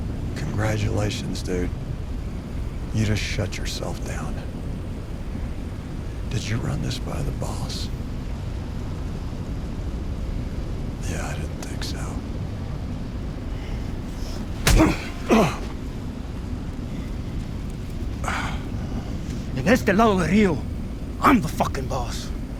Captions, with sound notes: Congratulations, dude. You just shut yourself down. Did you run this by the boss? Yeah, I didn't think so. [GROANS] En este lado del río, I'm the fucking boss.